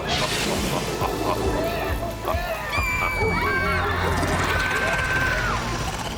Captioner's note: evil laughter; chorus of screaming, cackling